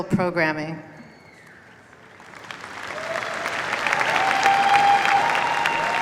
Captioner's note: cheers, applause